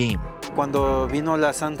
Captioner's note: speaking in Spanish